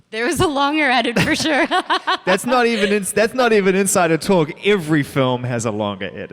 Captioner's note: laughter